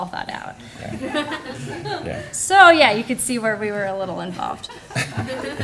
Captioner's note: laughter